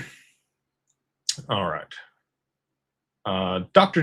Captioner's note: clears throat